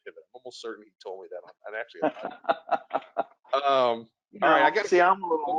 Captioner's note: laughs